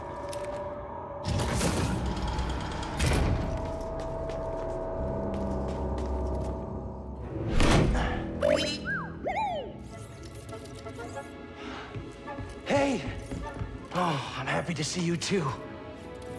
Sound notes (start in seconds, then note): 9.2 delighted woop